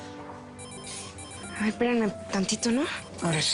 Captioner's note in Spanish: Suena el celular